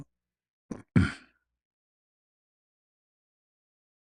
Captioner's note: berdehem